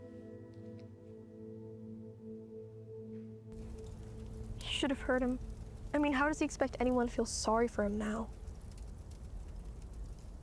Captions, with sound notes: (fire crackling) - You should have heard him. I mean, how does he expect anyone to feel sorry for him?